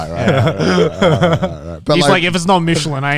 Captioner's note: laughs